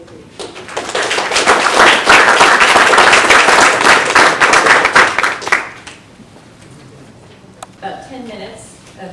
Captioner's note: applause